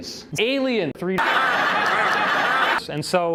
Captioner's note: laughter